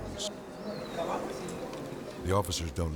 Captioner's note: crowd chattering indistinctly